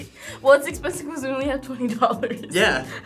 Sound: laughs

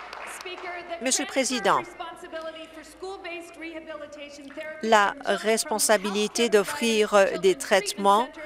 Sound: some Applause

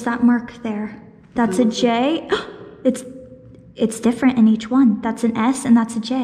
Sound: gasp

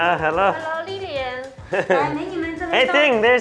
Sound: workers speak Mandarin

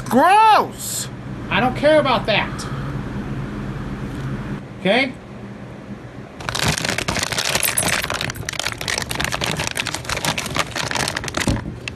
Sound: bag rustling

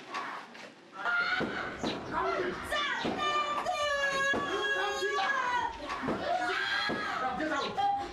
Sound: boy crying inside the room

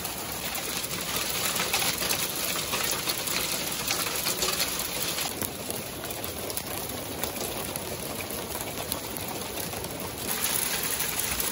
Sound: sound of the rain

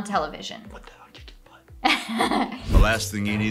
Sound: whispering

